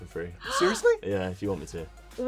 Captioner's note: gasps